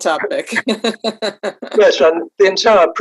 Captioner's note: laughs